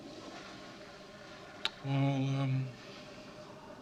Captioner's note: toilet flushes